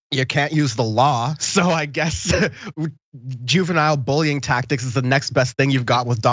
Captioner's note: laugh